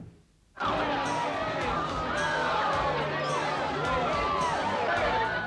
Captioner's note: partygoers chatting; loud music playing